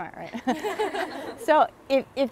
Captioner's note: laughing